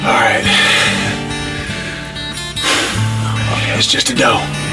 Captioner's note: exhales